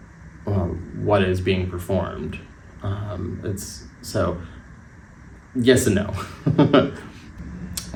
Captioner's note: laugh